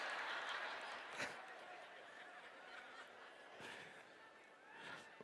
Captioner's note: laughter